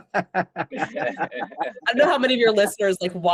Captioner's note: laughter